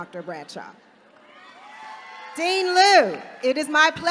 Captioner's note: applause